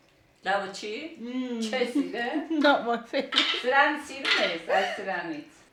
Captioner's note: laughs